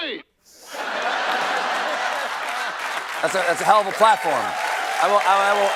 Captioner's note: laughter